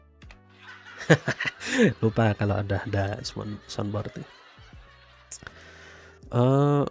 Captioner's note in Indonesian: tertawa